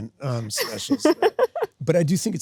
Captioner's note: Sydney laughs